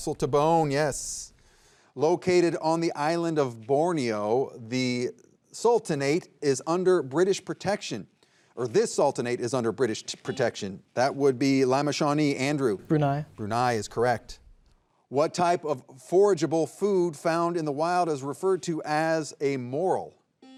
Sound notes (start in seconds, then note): 10.6 buzzer buzzing